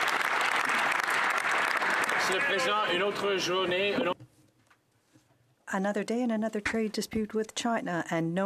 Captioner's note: some Applause